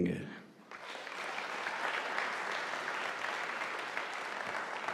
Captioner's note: audience applauding